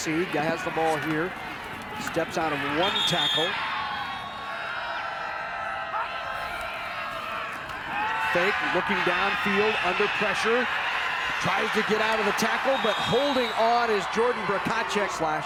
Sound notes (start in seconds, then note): 4.4 spectators cheering